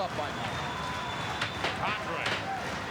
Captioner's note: audience cheering